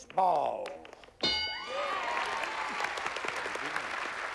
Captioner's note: applause